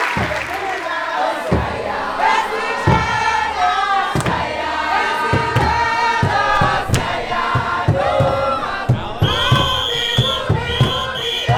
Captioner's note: people cheer; people chant